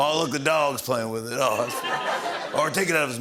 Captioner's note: laughter